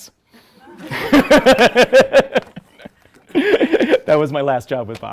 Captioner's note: audience laughs